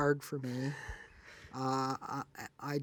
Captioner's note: laughs